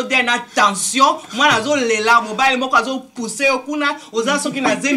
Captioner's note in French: frappe